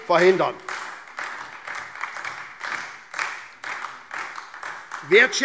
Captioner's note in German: Beifall SPD